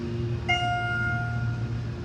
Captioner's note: ding